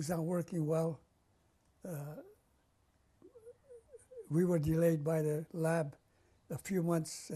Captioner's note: pauses for 3 seconds